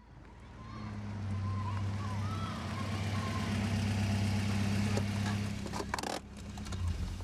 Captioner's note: engine rumbling; children chattering